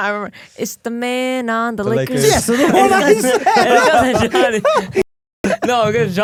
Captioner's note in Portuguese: risos